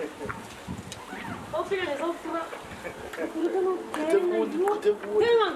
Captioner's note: speaking in xhosa